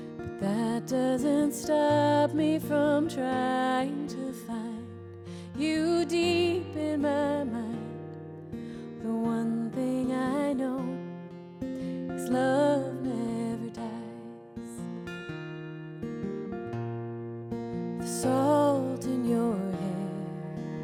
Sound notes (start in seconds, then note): none